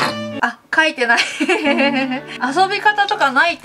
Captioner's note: laughs